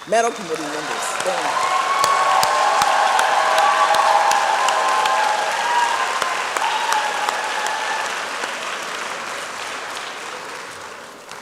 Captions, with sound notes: Medal committee members, stand. (applause and cheering)